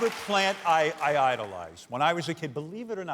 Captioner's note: cheers and applause